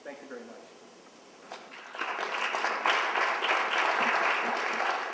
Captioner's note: applause